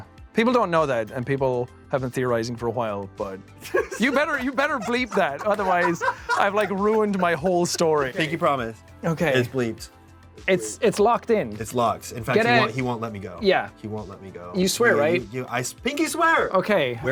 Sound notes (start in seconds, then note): 3.6 laughs